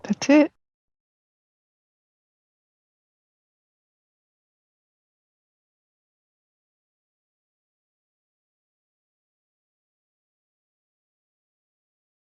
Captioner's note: silence